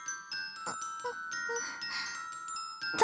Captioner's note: groan